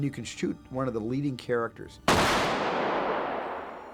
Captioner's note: gunshot echoing